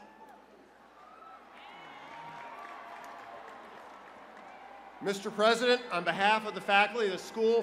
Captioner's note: cheers and applause